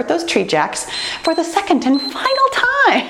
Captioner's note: timer beeps